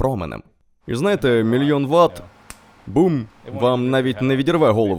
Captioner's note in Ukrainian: клацає пальцями